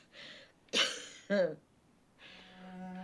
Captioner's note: coughs